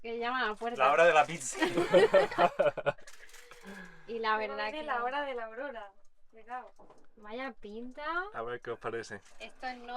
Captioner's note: laughs